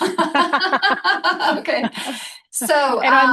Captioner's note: laughing